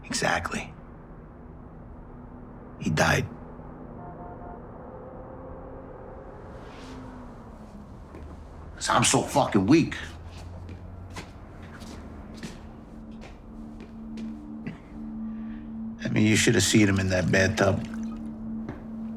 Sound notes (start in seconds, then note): 3.5 traffic whooshing and honking in background; 10.2 footsteps padding; 11.2 low tense music